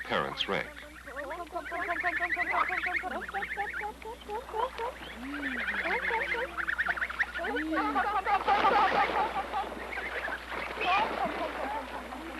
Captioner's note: chirping, Students Communicating with Goslings